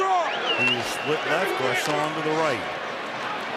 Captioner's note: whistle